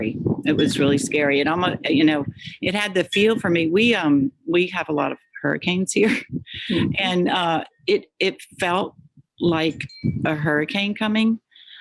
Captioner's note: laughs